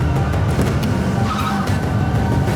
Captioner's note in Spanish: Chirrido de llantas